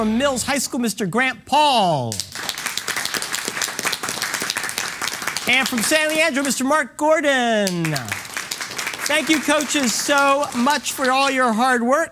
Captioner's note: applause